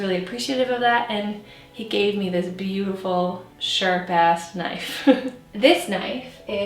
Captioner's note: chuckles